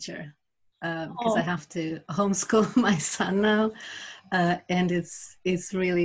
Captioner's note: laughs